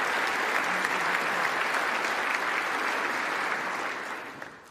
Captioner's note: applause